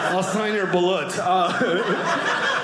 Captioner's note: audience laughing